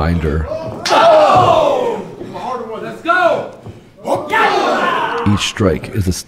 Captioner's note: audience cheering